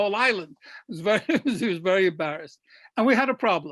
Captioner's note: laughs